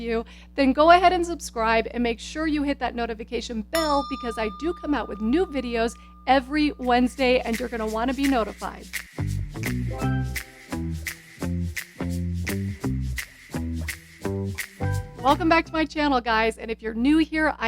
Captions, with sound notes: then go ahead and subscribe and make sure you hit that notification bell (bell chimes) because I do come out with new videos every Wednesday and you're gonna wanna be notified. (upbeat music) Welcome back to my channel guys and if you're new here